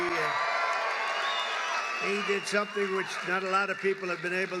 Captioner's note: applause